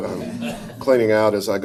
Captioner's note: audience chuckles